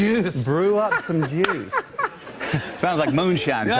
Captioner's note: laughter